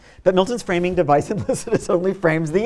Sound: laughs

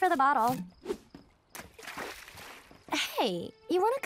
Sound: splashes

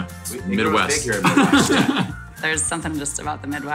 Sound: laughing

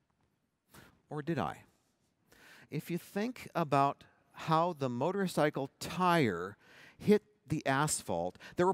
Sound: none

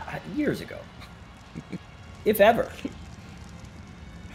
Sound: laugh

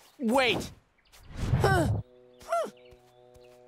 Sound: groaning

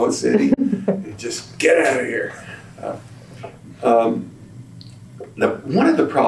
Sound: laughter

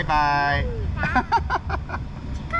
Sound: laughing

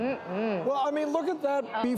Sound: audience murmurs

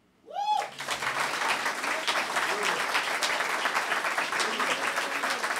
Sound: applause

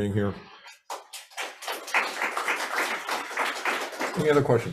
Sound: attendees applaud

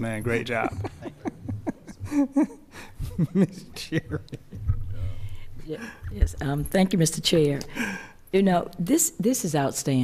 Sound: laughter

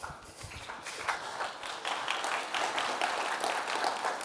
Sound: audience applauds

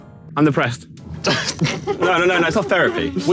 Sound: laughs

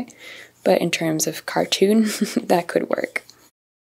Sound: chuckles

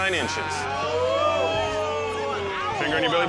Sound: spectators applauding

